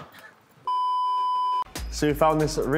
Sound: beep

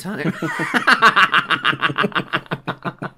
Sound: witches Cackle

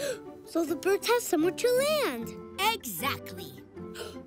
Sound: gasps

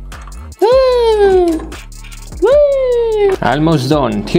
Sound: funny noises

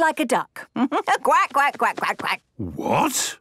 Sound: quacks

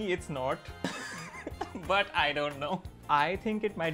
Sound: laughs

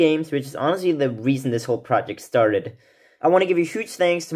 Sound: none

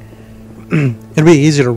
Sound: clears throat

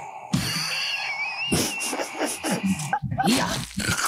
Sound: all laughing

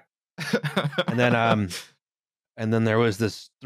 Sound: laughter

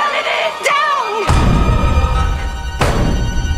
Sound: pounding

